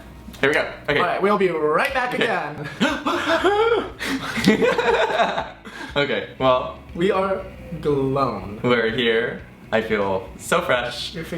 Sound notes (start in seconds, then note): 3.9 both gasping; 4.2 laughing